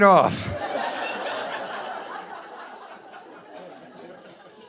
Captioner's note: audience laughing